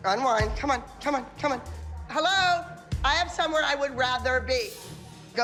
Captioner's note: none